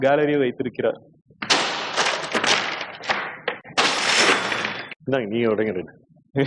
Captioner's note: glass shatters